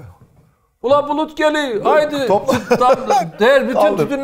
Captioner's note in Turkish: Karadeniz aksanı ile